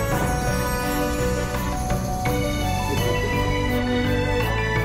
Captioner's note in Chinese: 笑～